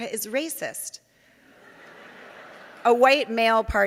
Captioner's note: audience laughing